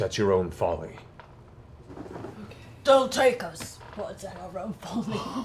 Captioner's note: in Grog voice